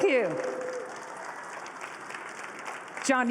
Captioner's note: applause